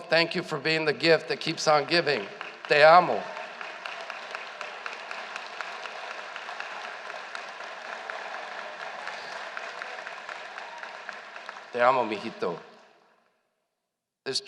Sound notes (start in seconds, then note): 3.8 applause